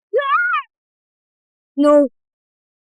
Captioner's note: screams